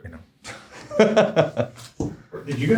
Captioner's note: laughs